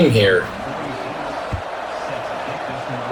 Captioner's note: crowd Noises